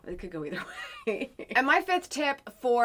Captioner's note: laughs